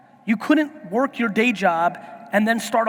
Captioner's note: none